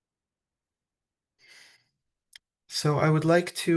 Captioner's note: silent pause; exhales